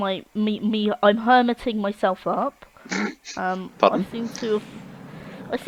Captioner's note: laughing